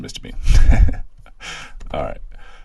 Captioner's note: giggles